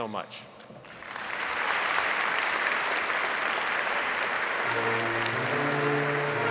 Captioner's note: audience applauding; gentle orchestral music